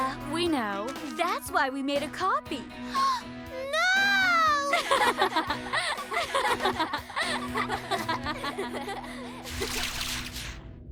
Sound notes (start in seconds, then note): 2.3 gasps; 4.4 girls laugh